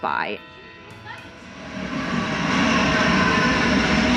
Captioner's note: train roars